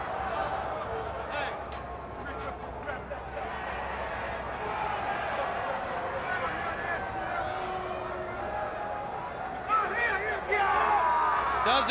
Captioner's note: crowd chatter